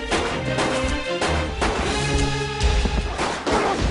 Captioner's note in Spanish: Disparos